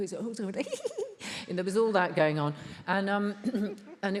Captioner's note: laughs